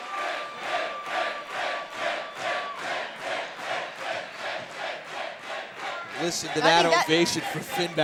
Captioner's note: fans chanting